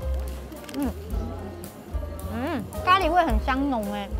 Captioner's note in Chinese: 超酥脆的聲音